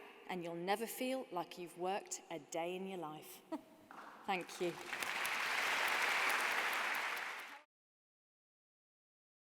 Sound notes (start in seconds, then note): 4.3 applause